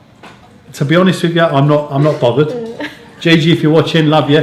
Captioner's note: chuckling